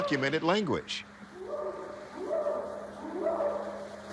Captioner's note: short howls